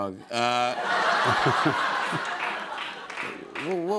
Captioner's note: laughter